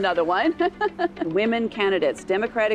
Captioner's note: laughs